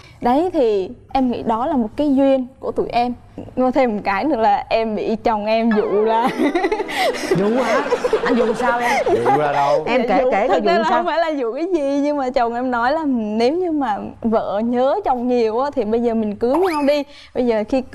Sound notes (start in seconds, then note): 8.2 laughing